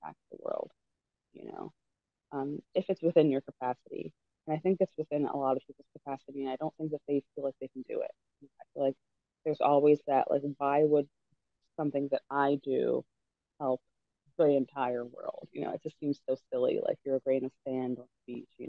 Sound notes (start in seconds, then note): none